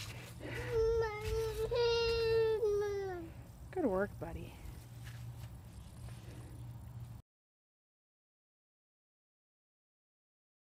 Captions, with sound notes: (baby whining) Good work, buddy.